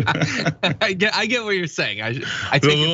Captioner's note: laugh